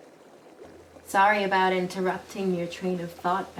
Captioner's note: none